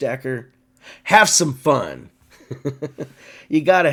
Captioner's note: laughs